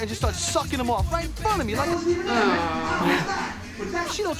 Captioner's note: groaning from the audience